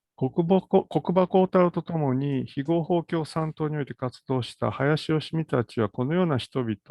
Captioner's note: speaks in Japanese